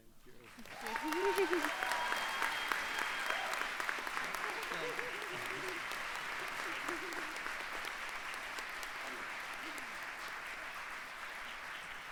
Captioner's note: applause